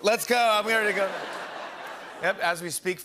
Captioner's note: laughter